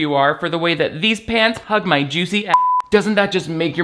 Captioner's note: beep